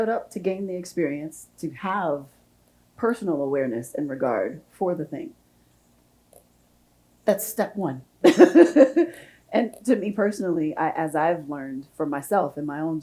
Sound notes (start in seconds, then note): 8.2 chuckles